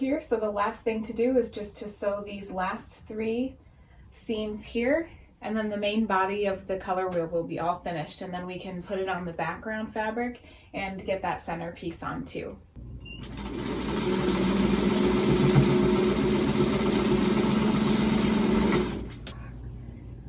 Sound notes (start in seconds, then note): 13.0 sewing machine whirring